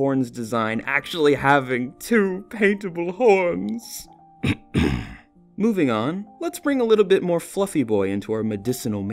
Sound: clears throat

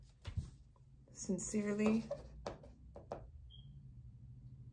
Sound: paper rustling; pen tapping; smoke detector beeping

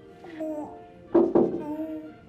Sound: knocks on window

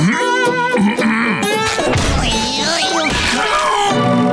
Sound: grunting

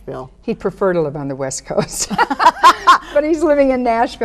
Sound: women laugh

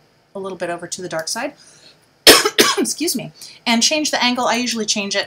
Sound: coughs

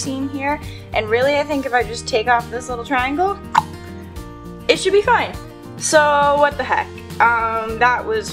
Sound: clicks tongue

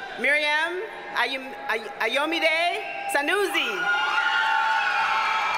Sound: audience cheers and applauds

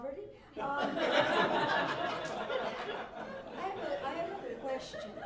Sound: laughter

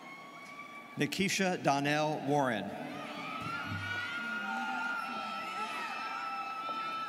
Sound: students cheering

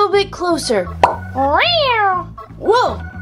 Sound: popping noise; cat meowing

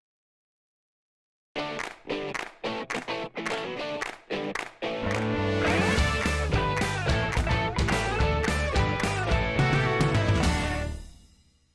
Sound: claps

